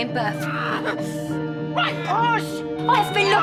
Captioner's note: lily groans in pain